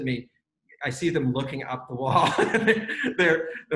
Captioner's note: laughs